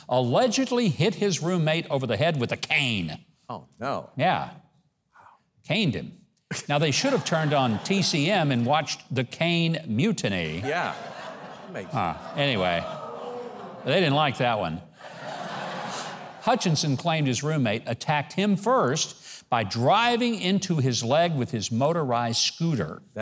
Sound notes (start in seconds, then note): 12.7 audience mumbling; 14.9 audience laughing